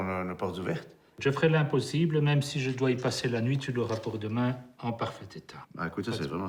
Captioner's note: speaking in foreign language